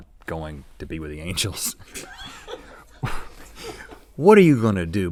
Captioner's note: crew offscreen laughing